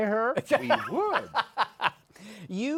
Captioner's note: laughs